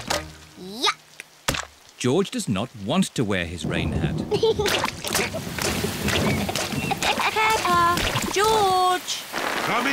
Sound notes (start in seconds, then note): 3.5 thunder rumbling; 4.4 giggling